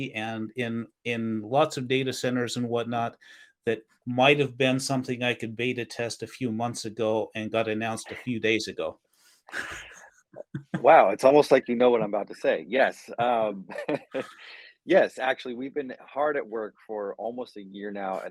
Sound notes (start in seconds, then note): 10.4 laughs; 13.2 chuckles